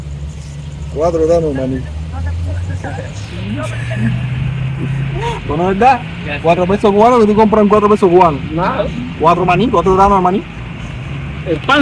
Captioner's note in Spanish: risas